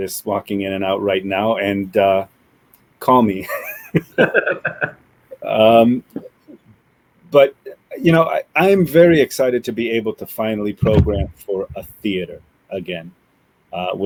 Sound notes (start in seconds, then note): 3.4 laughs